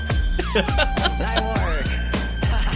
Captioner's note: chuckling